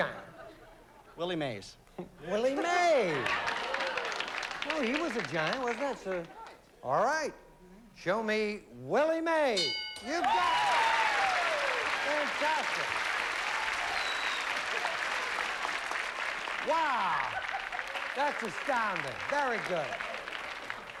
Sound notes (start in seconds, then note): 2.9 applause; 9.9 cheering and applause